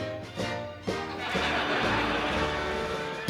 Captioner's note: laughter